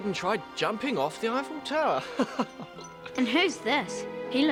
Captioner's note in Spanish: risas